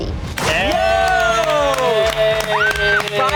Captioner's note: all cheer